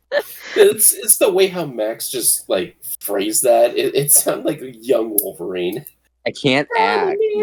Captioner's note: chuckles; laughs; chuckles